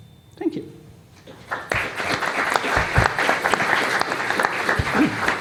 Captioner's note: applause